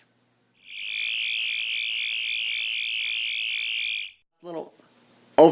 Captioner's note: sonic screwdriver buzzing